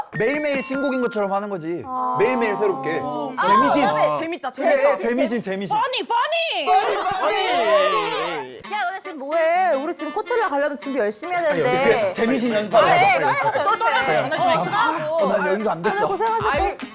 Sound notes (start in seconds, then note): 1.8 jump sound